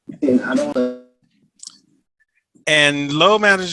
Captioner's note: electronic twanging